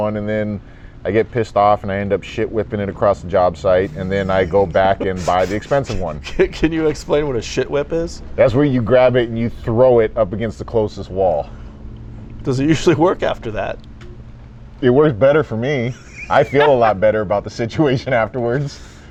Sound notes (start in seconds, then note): 6.3 laughs; 15.8 laughs